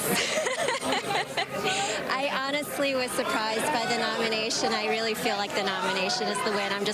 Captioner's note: laughter